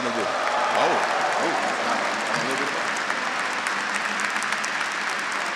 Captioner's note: audience cheering and clapping